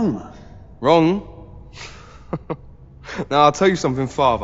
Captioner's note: chucking